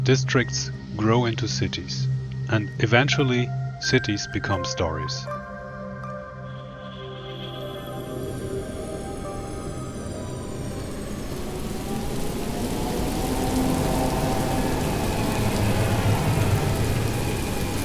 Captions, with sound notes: Districts grow into cities. And eventually cities become stories. [atmospheric music] [buzzing hum] [raindrops] [mysterious, somber music] [mysterious, somber music] [hovercar drones past]